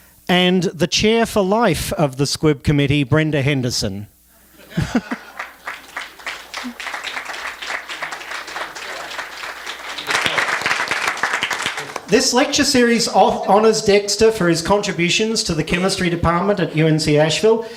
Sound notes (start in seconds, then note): 4.8 applause